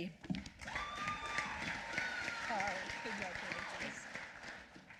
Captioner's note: applause